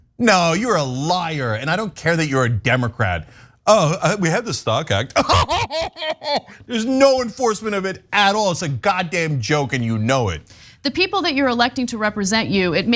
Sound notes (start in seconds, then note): 5.1 laugh